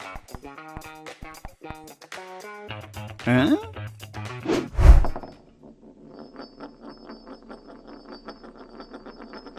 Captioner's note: crash